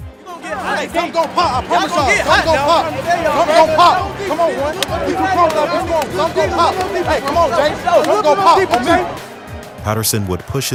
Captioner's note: player chatter